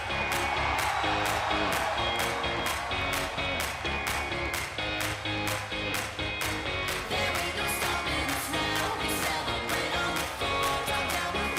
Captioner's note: crowd cheering